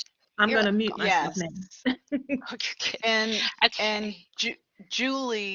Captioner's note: laughter